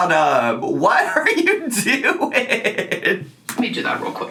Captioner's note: laughing